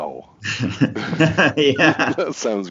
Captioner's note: laughs